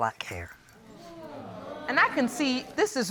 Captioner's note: audience exclaims